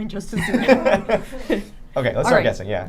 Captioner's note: group laughing